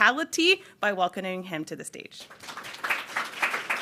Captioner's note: applause